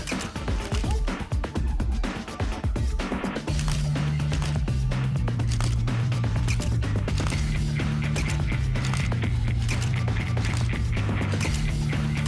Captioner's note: camera shutter clicking